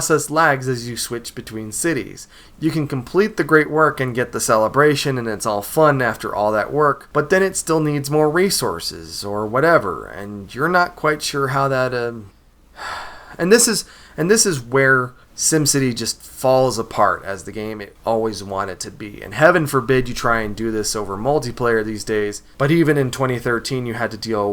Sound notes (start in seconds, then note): 12.7 sigh